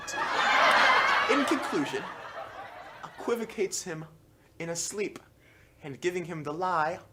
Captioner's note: laughter